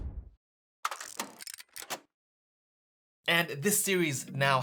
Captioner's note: camera clicking